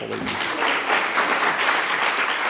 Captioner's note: applause